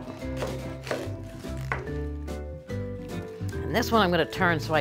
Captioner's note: knife gently thuds on board